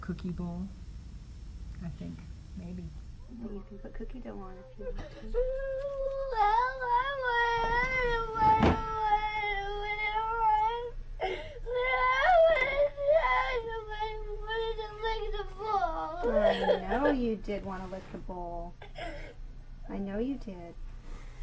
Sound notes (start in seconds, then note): 11.6 crying